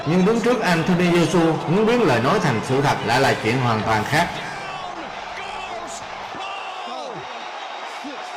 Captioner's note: cheers